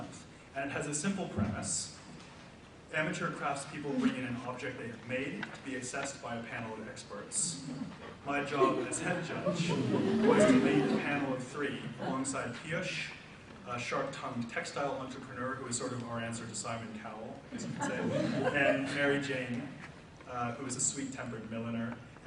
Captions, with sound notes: month, and has a simple premise. Amateur craftspeople bring in an object they've made to be assessed by a panel of experts. My job as head judge (audience laughs) Was to lead a panel of three, alongside Piyush, a sharp-tongued textile entrepreneur who was sort of our answer to Simon Cowell, (audience laughs) I should say, and Mary Jane, who was a sweet-tempered milliner,